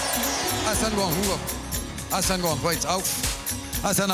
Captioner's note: speaking native language